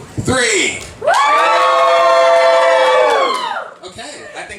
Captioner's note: audience heard screaming